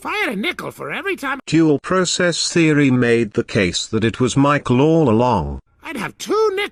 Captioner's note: CANDY CADET, overlaying voice